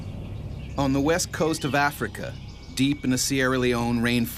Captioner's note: voiceover